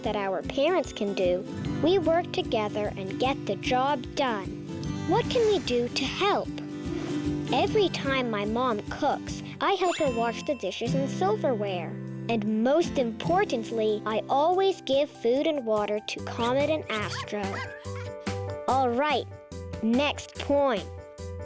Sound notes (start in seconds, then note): 9.9 check mark rings; 13.5 playful music